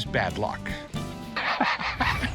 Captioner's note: laughs